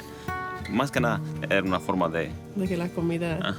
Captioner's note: speaks in foreign language